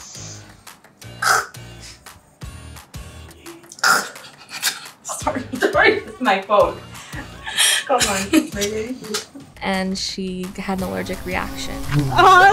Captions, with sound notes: [ choking ] [ lchoking ] [ laughing ]...sorry...it's my fault. [ laughing ] And she had an allergic reaction. [ wasp buzzing ]